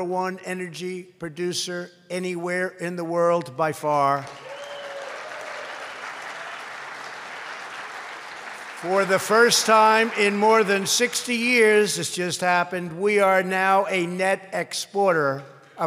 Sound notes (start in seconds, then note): 4.2 applause